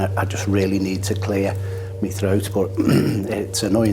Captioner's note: clears throat